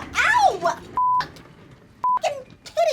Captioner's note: cursing; beep